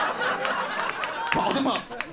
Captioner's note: audience laughing